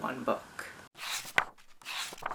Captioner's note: pages turning